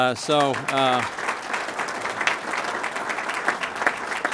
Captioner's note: applause